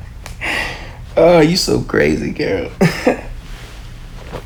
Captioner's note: chuckles